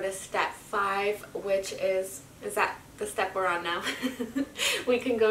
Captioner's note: laughs